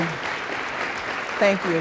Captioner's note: applause